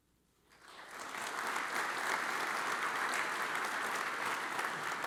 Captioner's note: audience applauds